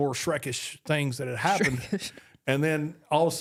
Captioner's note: laughs